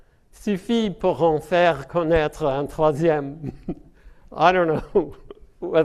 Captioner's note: speaking French